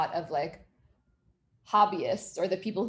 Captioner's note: none